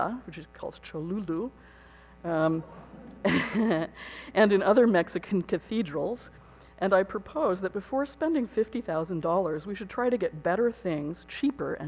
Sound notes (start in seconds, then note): 3.0 laughs